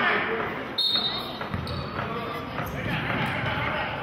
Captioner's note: whistling